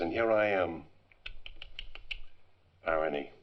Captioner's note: clicking tounge